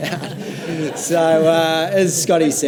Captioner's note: audience laughs lightly